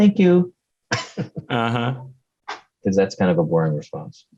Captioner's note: laughs